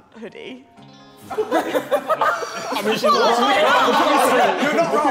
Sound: Sidemen laughing

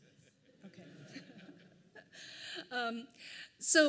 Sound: laughs

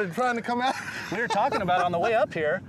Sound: laughing

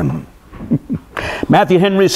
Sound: chuckles

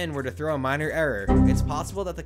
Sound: Windows error sound

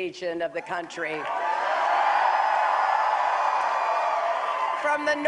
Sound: applause

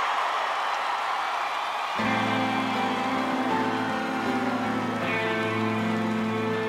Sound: crowd cheering

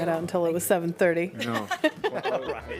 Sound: laughter

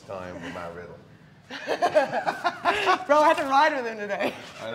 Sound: laugh

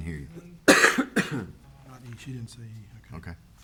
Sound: attendee coughs

